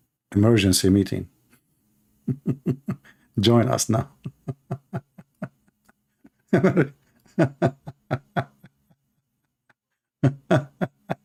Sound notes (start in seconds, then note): 6.4 Ketawa